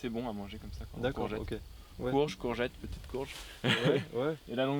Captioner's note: laught